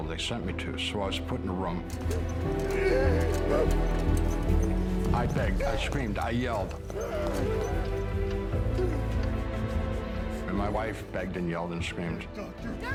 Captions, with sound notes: they sent me to. So I was put in a room. [moaning and yelling] I begged, I screamed, I yelled, [intense music] and my wife begged and yelled and screamed,